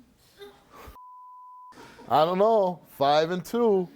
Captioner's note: beeping